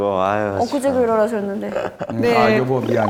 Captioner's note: suspicious